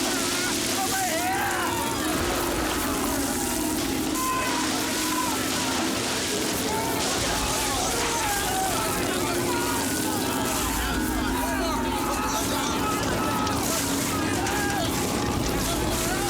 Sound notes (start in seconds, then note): 4.8 men yelling; 4.8 suspenseful music